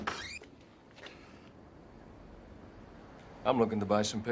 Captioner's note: window squeaks; Jack knocks